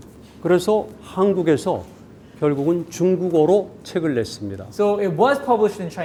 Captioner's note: speaking in Korean